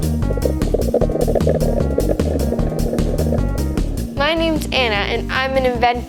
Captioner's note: water burbling